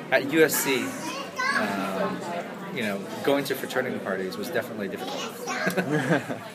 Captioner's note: laughs